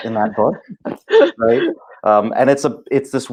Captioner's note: laughing